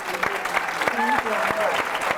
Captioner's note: applause